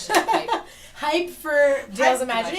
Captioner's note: laughter